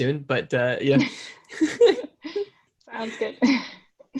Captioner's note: both laughing